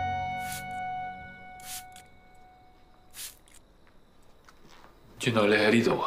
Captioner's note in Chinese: 噴壺噴水聲